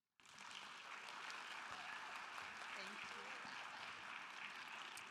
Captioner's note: audience applauding